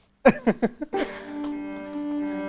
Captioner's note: laughing